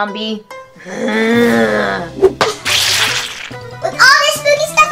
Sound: zombie groans

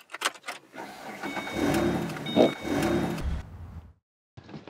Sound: car cranking

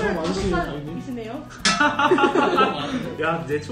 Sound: laughs in embarrassment

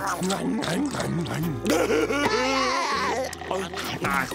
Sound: laughing

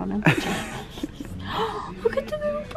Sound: laughing

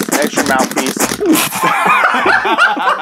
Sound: blows furiously and almost chokes

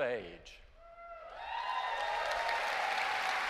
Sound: cheers and applause

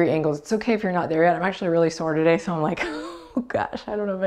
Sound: laughs

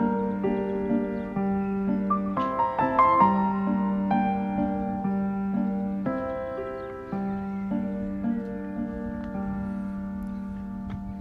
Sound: romantic Piano Music; soft background chatter

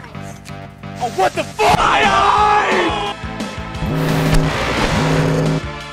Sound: none

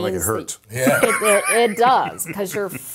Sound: laugh

